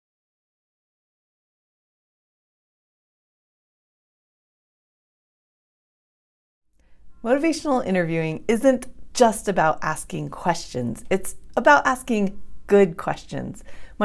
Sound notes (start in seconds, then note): 0.0 silence